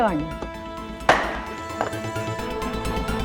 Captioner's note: gavel banging